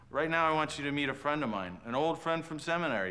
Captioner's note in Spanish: none